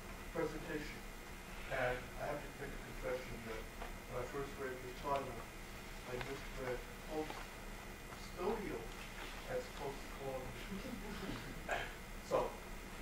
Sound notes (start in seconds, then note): 10.6 subtle audience laughter